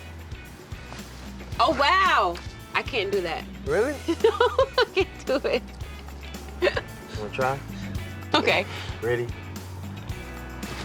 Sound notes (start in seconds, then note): 4.0 laugh